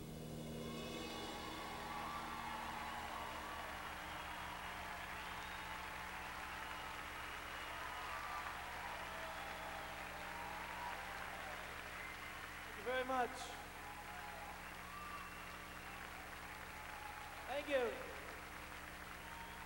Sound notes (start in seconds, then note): 0.3 crowd cheering; 14.7 crowd cheering